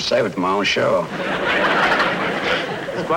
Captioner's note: audience Laughing